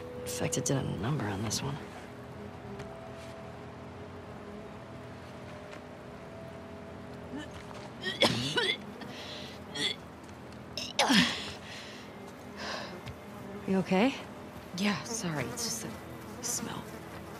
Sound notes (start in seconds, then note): 8.0 vomits